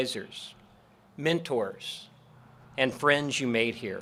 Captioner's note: none